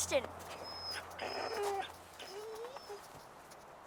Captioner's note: Buck whining